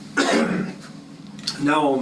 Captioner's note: cough